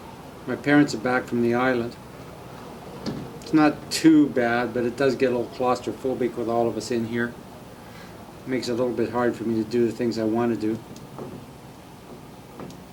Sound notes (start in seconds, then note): none